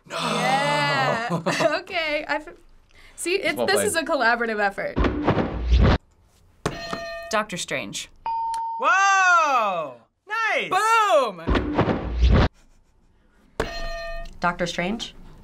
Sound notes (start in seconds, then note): 5.0 flapping; 6.7 ding; 6.8 hitting bell; 11.4 flapping; 13.6 hitting bell